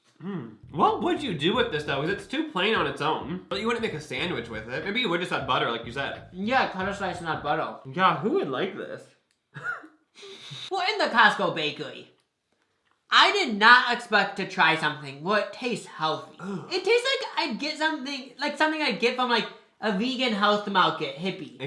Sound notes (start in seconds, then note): 9.6 both laugh; 16.4 groans